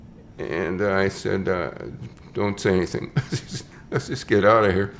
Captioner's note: chuckles